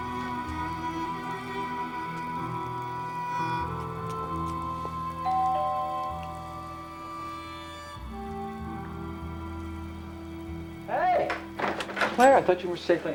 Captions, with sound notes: (DOORBELL RINGS) Hey! Claire, I thought you were safely anchored at home.